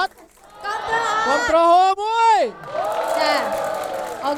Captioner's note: cheering